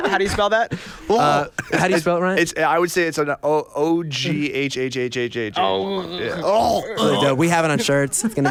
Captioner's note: vomit sounds; vomit sounds